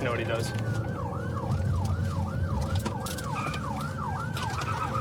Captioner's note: siren wailing